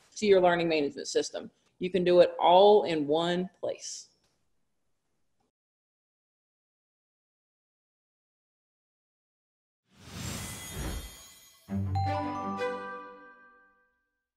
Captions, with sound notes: to your learning management system. You can do it all in one place. (whooshing sound) (bright music)